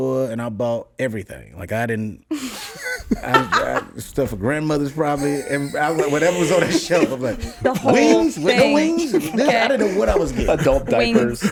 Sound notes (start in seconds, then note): 2.3 laughs